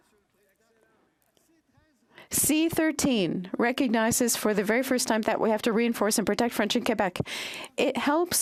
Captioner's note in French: voix de l'interprète